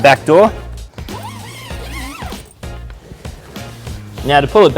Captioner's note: unzipping